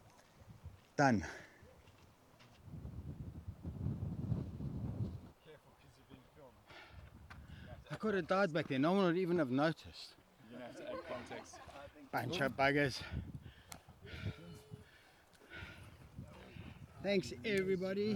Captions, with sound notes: Done. [wind blowing] I couldn't dodge back there. No one would even have noticed. Bunch of buggers. Thanks everybody.